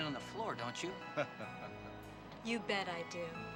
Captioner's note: Captain laughing